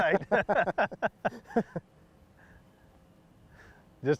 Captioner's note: laughing